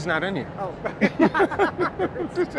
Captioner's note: chuckling